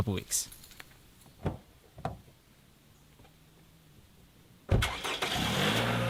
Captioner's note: car door opening; keys jingling; car door shutting; engine starting